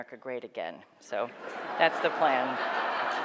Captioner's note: laughing